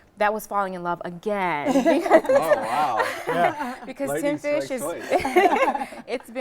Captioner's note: laughing